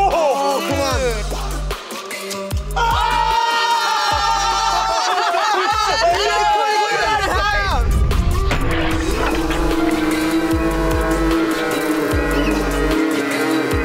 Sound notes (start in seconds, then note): 0.3 oohing and yelling; 2.8 cheering and laughing; 8.6 slowed cheering and laughing